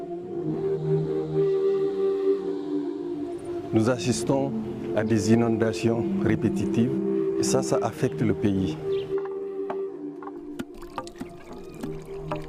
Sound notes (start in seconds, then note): 9.9 grinding seeds